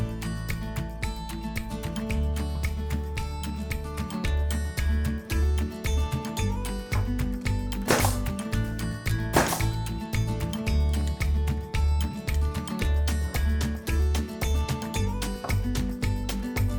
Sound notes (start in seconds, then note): 3.6 light upbeat music; 7.8 nail gun popping